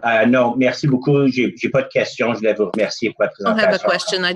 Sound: speaking in French

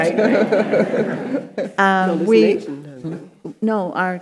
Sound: panelists and audience laughing

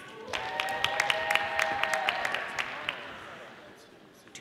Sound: audience applauding

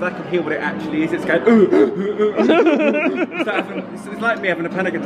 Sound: laughs

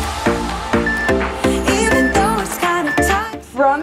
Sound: timer beeping

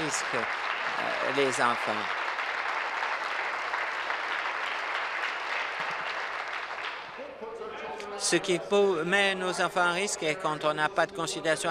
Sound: applause

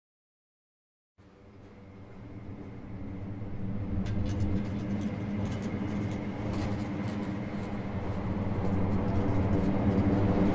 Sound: sound of dark scrape

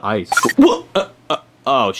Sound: tone beeps

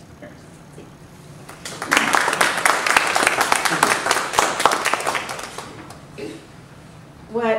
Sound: applause

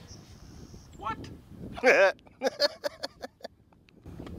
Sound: chuckles

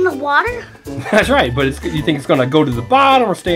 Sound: laughs

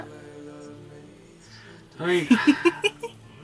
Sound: laughing

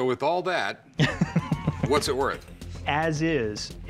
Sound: laughs

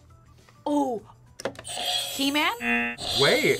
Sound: buzzer rings

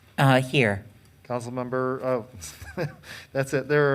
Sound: chuckling

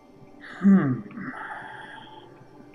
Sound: sighing

